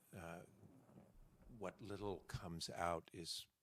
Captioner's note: none